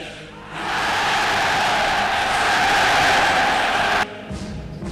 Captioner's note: thunderous Applause